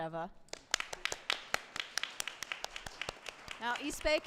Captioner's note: applause